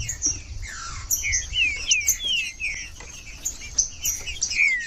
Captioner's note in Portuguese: trinca ferro cantando